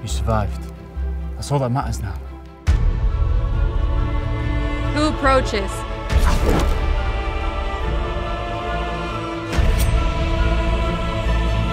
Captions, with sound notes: - You survived. That's all that matters now. - Who approaches? (arrow whooshes) (suspenseful music continues)